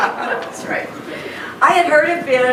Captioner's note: laughs; crowd laughing